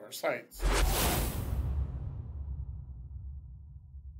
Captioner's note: whooshing sound